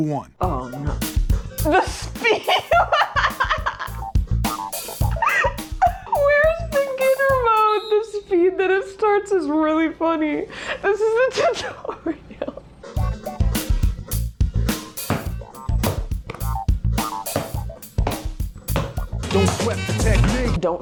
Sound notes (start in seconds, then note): 2.5 laughing